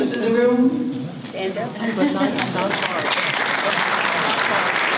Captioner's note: audience applause